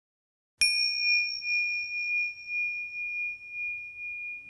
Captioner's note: gentle bell dings